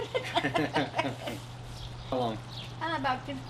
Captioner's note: both laugh